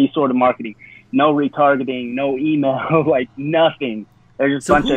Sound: chuckles

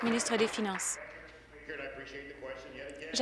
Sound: applause

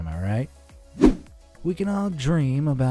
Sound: air whooshing

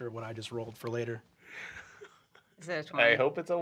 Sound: chuckling

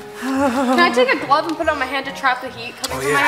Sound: mom shivering

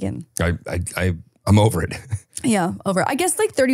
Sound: chuckles

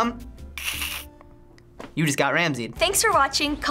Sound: imitates slicing sound

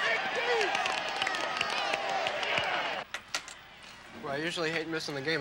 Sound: group claps

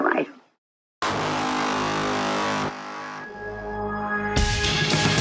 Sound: horn blares; upbeat music

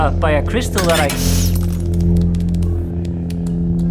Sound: glass shattering, sparks popping and buzzing

